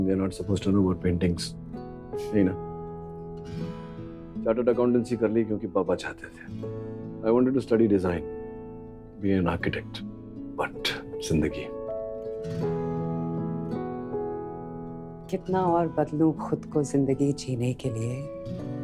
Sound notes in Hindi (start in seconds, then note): none